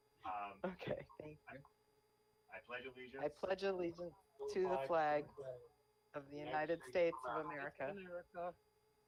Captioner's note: in Unison